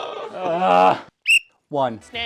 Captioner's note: whistle